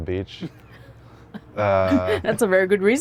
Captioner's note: laughs